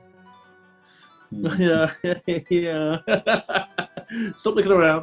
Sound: laughing

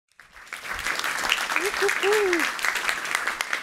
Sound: applause

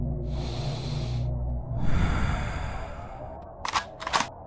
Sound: deep inhale and exhale

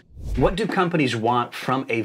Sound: air swooshing

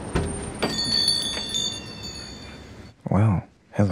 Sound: bells ring

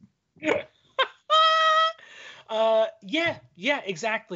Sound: laughing

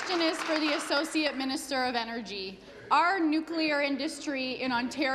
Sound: applause

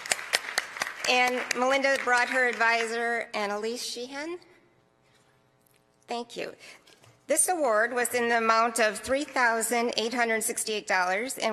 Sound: applause

